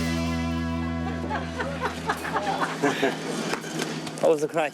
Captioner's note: woman laughing